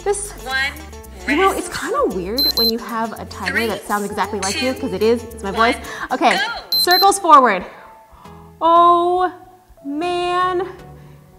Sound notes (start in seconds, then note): 2.4 beeps; 6.7 beeps